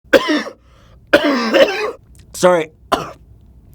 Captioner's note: coughing